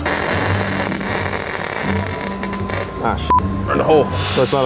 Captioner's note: weld zapping